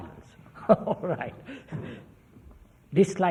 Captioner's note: laughs